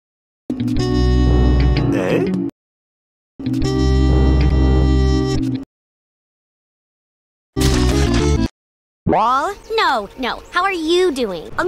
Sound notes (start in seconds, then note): 7.5 HL2 Fruit Squash sound effects